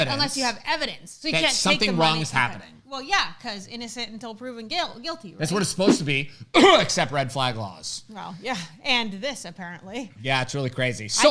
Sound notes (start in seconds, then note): 6.5 coughs